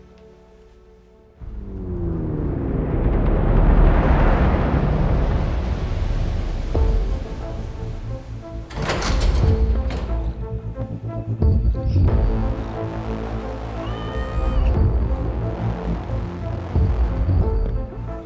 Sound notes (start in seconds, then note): 1.9 resounding surge; 6.8 tense music; 13.8 cat meows